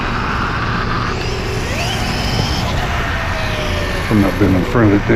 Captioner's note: electric motor screaming